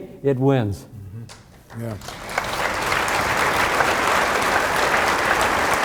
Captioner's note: audience applauding